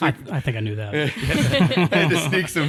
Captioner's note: all laughing